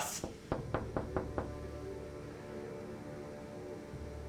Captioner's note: knocking on door